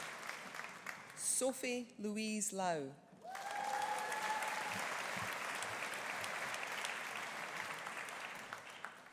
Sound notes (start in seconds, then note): 3.2 audience cheering; 3.2 audience applauding